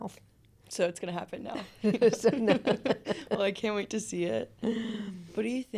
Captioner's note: laughter